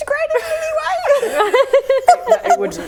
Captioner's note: laughing